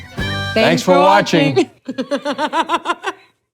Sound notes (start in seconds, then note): 1.5 Kathryn laughs